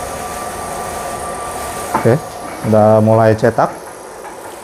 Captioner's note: printer machine noise